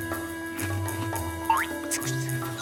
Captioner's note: whispers; whispering